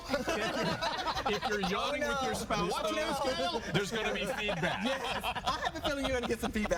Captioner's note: laughter